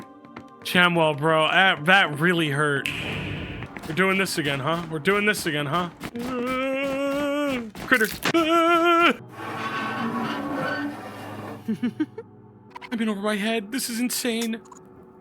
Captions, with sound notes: Chamuel, bro... That really hurt. We're doing this again, huh? We're doing this again, huh? (whimpers) Critter! (whimpers) (metal scrapes) "I'm in over my head! This is insane!"